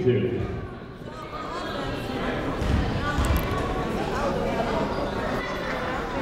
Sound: people talking in the crowd

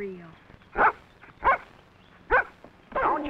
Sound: dog barks

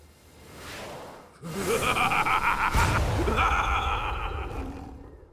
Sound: laughing

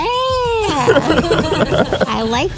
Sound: laughs

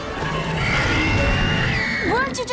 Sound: growling

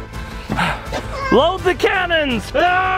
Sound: pants with exhaustion

